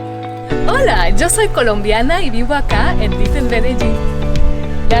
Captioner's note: in Spanish